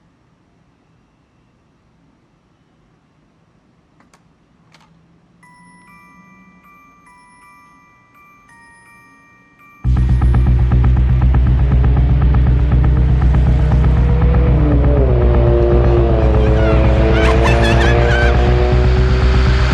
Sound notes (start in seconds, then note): 10.0 exciting music; 15.2 engines revving